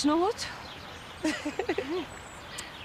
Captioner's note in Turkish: Gülme sesi